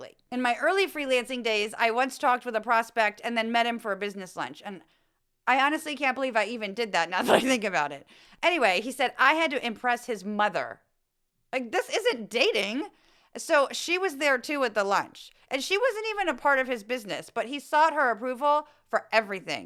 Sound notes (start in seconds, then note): 7.2 laugh